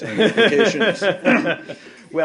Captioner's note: laughter